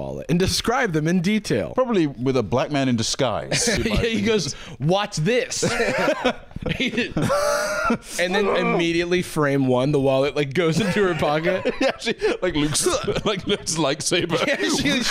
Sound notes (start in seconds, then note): 5.6 laughter; 10.7 laughs